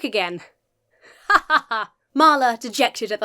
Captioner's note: imitates laughter